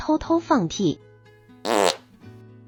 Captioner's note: make a puffing sound